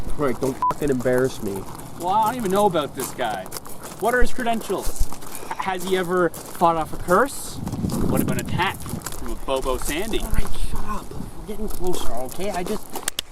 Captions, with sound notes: Alright, don’t f**king embarrass me. -Well, I don’t even know about this guy. What are his credentials? [STOKE SIGHS] Has he ever fought off a curse? What about an attack from a Bobosandy? -[QUIETLY] Alright, shut up! We’re getting closer, okay? I just...